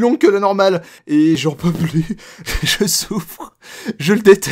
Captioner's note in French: Rire